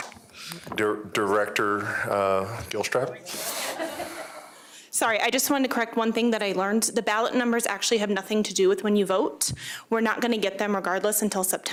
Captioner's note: laughter